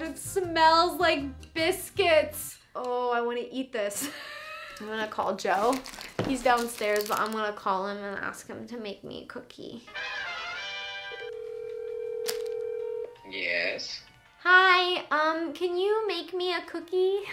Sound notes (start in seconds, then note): 3.9 laughs; 9.9 retro superhero music; 11.0 phone ringing